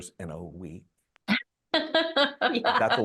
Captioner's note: both laughing